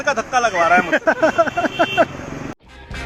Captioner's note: laughs